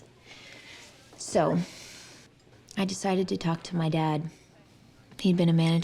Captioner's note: sighs